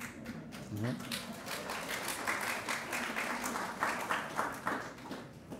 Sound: audience applauding

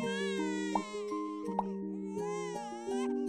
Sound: soft music; baby crying

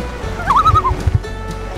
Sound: loon call

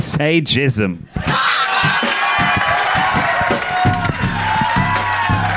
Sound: people cheering

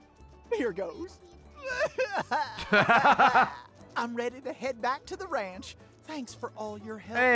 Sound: cries

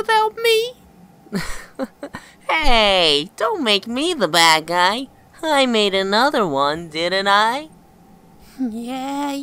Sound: chuckles

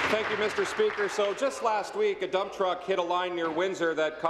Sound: applause

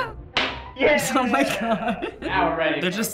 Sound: laughs; chuckles

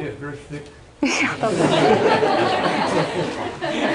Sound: laughter

